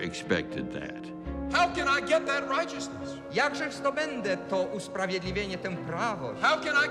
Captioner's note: translates in Polish